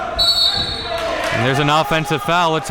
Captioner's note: whistle blowing